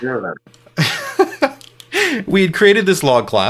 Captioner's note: laughing